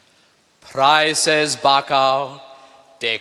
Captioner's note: speaking latin